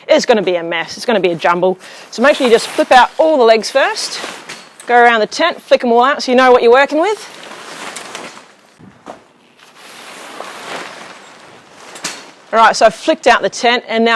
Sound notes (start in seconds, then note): 4.3 tent rustling; 8.0 metal clanging; 8.0 tent rustling